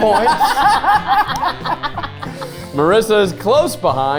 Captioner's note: group laughing